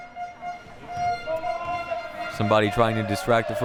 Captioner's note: horn blaring